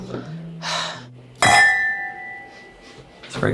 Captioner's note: glasses clink